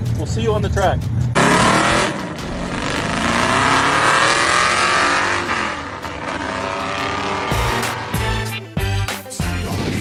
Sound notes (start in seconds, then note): 0.0 vehicle engines roaring